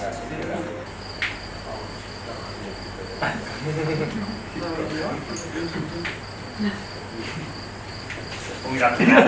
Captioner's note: crickets and uncomfortable giggles